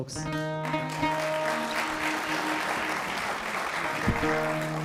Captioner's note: applause